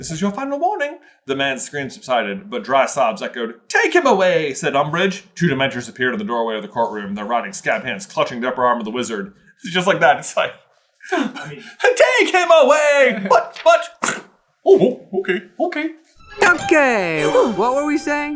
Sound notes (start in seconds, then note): 11.5 laughs